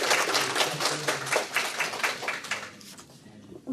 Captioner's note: applause